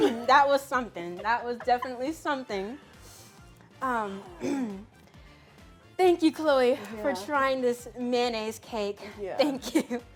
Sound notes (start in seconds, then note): 4.3 clears throat